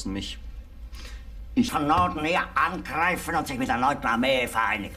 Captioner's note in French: parlant un anglais clair